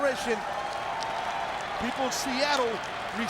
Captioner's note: audience cheering and clapping